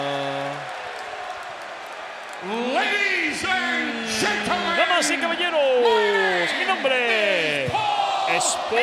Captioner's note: applause